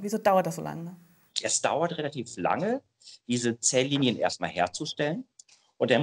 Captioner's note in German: Hust